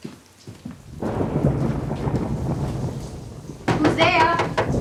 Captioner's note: thunder rumbling; Annie knocking